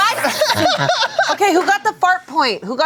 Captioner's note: laughs